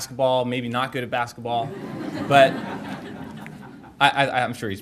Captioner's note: audience laughter